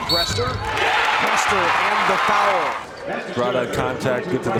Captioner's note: crowd cheers